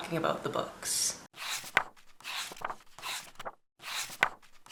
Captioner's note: pages turning